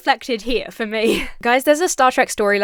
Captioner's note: laughs